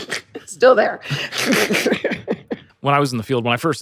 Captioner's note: all laugh